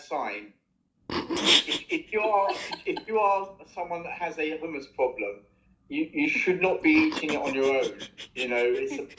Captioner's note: laughter